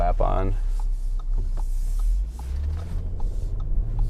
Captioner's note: blinker pinging